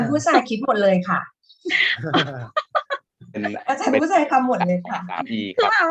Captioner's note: women members of team 1 are talking